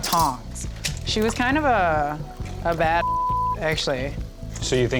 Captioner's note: beep